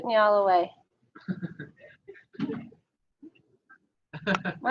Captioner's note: audience laughing